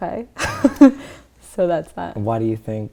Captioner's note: laughter